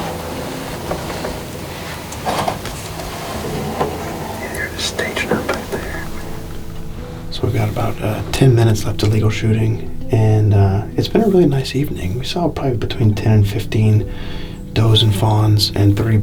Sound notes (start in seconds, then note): 0.1 soft music; 4.1 whisper